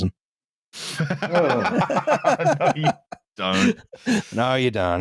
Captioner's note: laughter